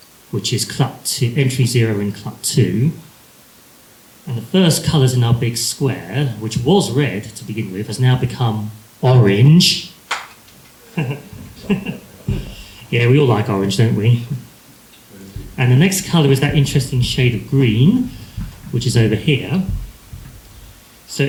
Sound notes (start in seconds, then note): 10.0 occasional clap